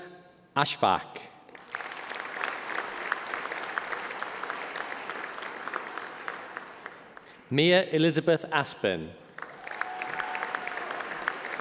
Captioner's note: applause